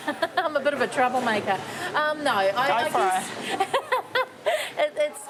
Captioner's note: laughs